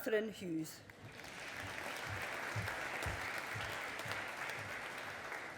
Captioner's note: audience applauding